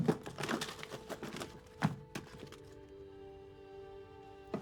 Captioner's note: drawer scraping; objects clattering